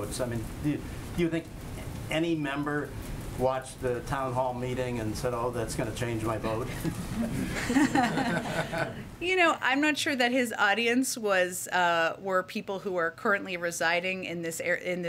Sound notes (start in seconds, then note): 6.7 laughter